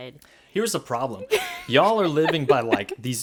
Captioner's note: laughs